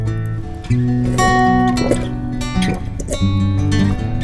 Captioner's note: gulps